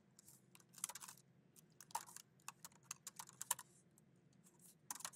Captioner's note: keyboard clacking